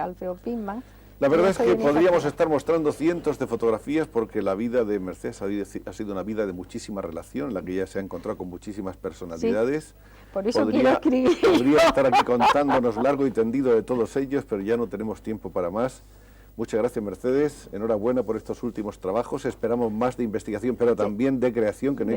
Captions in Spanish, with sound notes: Alfreo Pinman. La verdad es que podríamos estar mostrando cientos de fotografías porque la vida de Mercedes ha sido una vida de muchísima relación en la que ya se ha encontrado con muchísimas personalidades. [risas] Podría estar aquí contándonos largo y tendido de todos ellos, pero ya no tenemos tiempo para más. Muchas gracias, Mercedes. Enhorabuena por estos últimos trabajos. Esperamos más de investigación, pero también de creación que no